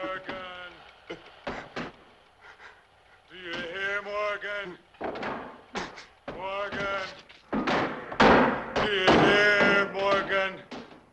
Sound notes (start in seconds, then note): 1.4 boards thumping; 6.2 boards thumping